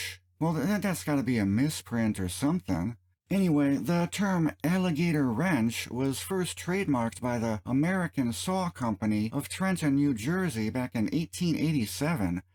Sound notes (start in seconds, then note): none